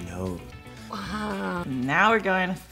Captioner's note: laughs